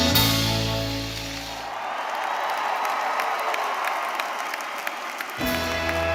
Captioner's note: audience cheering; audience applauding; majestic music